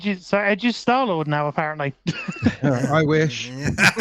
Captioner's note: laughing